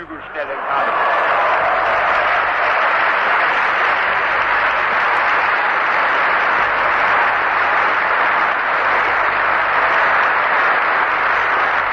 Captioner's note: laughter, Applause